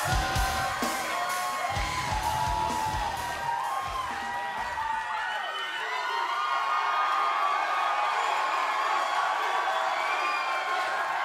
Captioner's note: crowd cheering